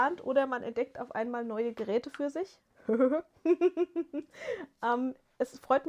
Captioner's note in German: gelächter